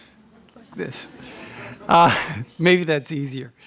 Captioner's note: laughter